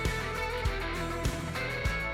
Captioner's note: footsteps